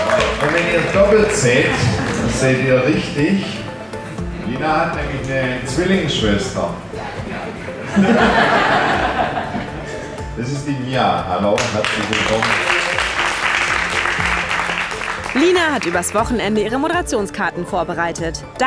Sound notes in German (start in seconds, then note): 7.0 Lachen; 11.5 Applaus